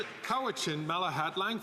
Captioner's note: some Applause